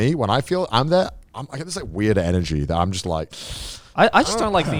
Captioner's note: hisses